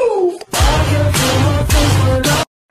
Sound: metal bangs in sync with music

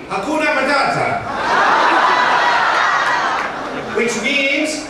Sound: laughing

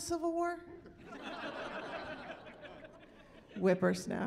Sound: laughing

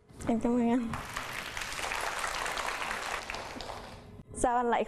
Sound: clapping hands

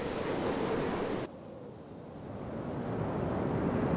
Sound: rushing winds

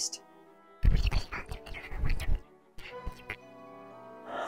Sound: even more whispering

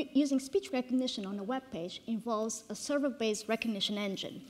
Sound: none

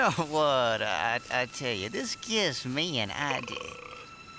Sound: Bully Frog burping

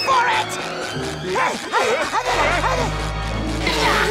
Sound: grunting

